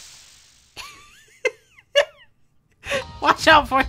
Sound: laughs

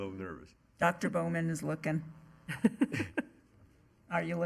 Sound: chuckling

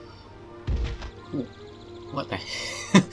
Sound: thud!!; laughing

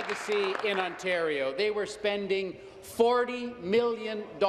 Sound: applause

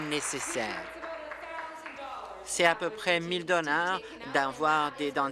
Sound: applause

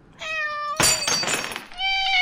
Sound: cat meow; glass breaks; cat meow

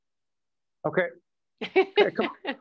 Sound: laughing

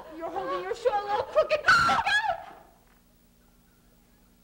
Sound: screams

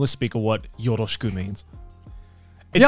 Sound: speaks Japanese

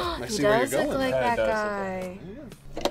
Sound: gasps

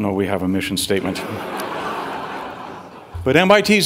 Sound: audience laughing

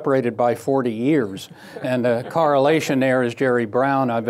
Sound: laughter

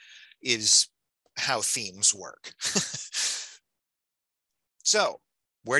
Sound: laughs

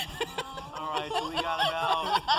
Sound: laugh

